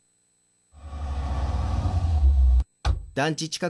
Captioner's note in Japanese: ドアの開閉音：バタン; 車の停車音：ブオオォ...ン